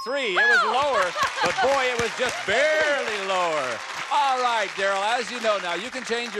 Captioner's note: applause